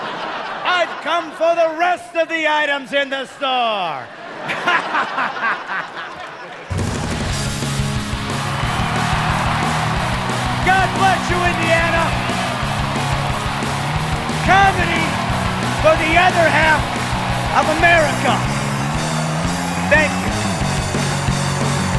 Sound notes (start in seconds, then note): 7.1 laughing; 11.9 cheering